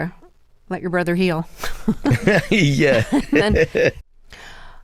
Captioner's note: laughter